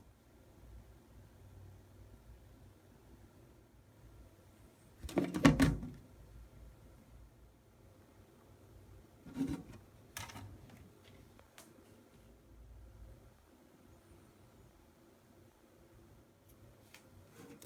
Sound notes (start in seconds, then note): 17.3 folding